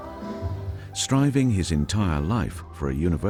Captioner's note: voiceover